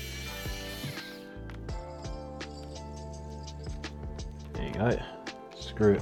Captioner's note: screwdriver whirring